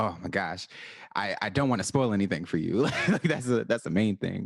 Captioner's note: laughs